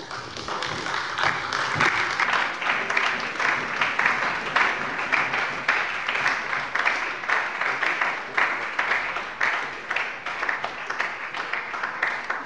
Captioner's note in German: Beifall bei der SPD und der LINKEN